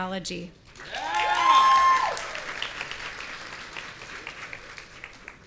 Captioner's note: audience cheering